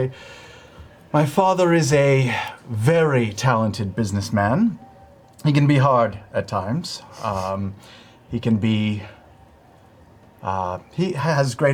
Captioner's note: sighs